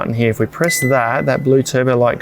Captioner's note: fridge beeps